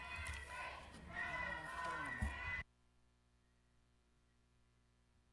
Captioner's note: protestors interjecting